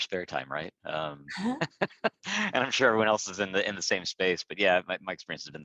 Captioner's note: laughs